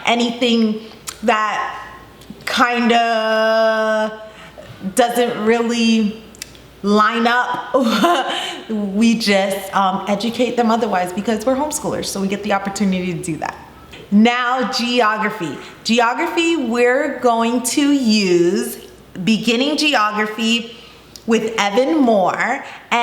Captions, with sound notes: Anything that kinda doesn't really line up (laughs) we just educate them otherwise because we're homeschoolers so we get the opportunity to do that. Now Geography, Geography we're going to use "Beginning Geography" with Evan-Moor.